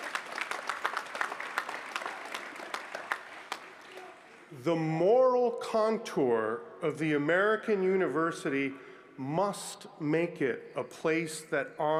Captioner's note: applause